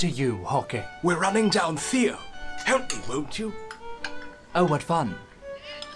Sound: muttered

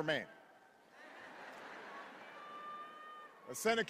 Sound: laugher

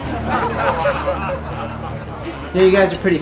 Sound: crowd laughing

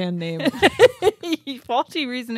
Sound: chuckles

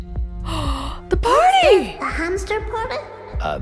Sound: gasps

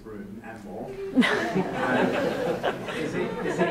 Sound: audience laughs

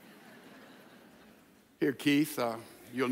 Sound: audience laughs

